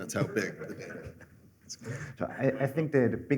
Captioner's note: laughter